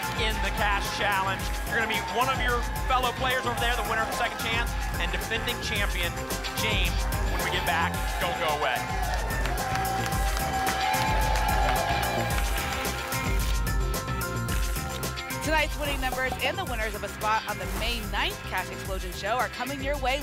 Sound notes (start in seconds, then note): 9.3 applause and cheering cont; 12.6 tickets shuffling